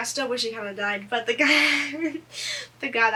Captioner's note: laughs